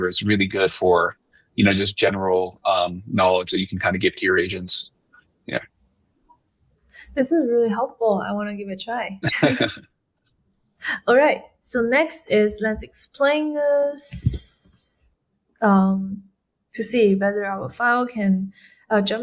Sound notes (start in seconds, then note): 9.2 laughing